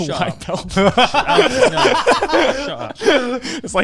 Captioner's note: laughing quickly